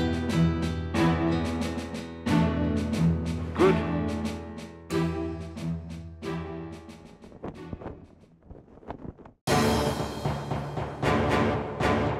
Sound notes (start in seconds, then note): 0.0 pensive music; 7.1 flag flutters; 9.4 epic music